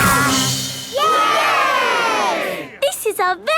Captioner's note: all cheering